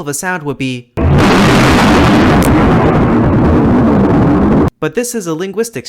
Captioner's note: sound of the Krakatoa eruption